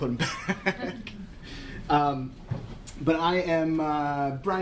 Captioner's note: laughter